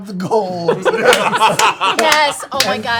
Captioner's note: singing; laughter